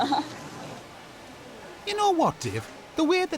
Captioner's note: chuckles